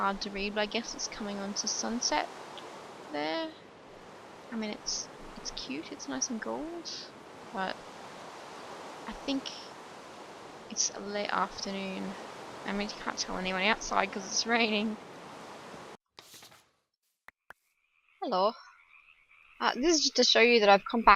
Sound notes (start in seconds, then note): 16.2 paper flip